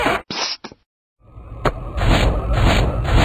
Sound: none

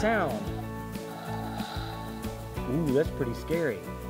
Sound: dinosaur roars

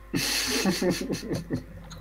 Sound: retarded laughing

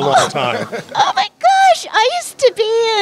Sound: laughter

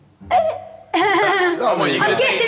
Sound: laughing

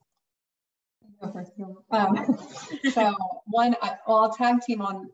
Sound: chattering

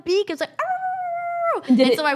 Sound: imitating dog whining

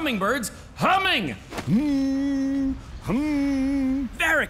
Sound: humming

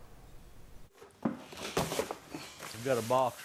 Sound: box thuds

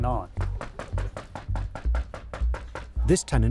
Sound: knocking on door

